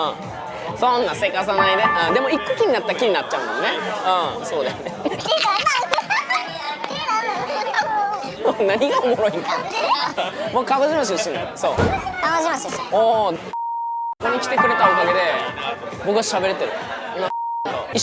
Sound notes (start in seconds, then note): 2.6 endless chatter